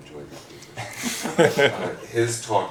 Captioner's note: laughter